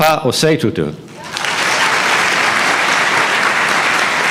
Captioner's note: applause